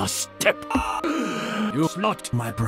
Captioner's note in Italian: gasp